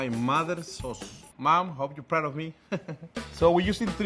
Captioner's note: chuckling